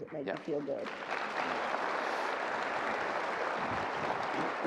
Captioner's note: audience applause